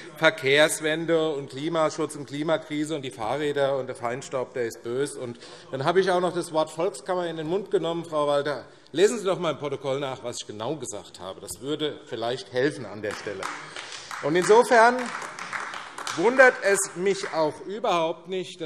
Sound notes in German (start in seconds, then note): 13.0 Beifall AfD